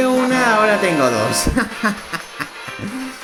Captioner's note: laughs